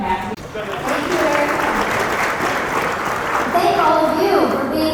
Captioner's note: audience applause